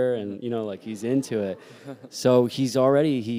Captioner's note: laughter